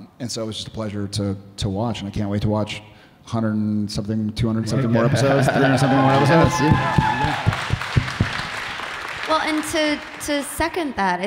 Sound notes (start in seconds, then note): 6.3 audience cheering